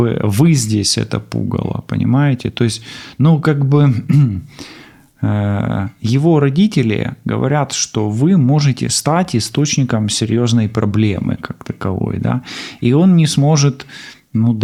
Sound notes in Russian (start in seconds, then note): 4.0 откашливается